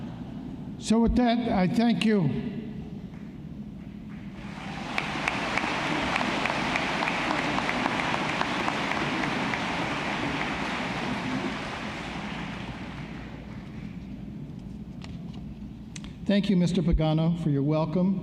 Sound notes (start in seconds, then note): 4.6 laughing; 8.2 applause